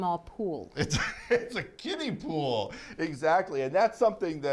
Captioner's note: laughing